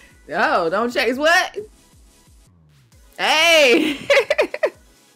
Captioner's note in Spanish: Riendo